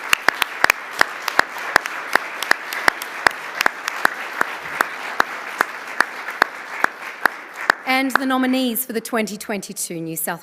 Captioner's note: applause